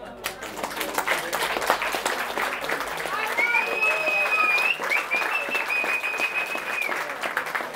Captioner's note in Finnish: Aplodeja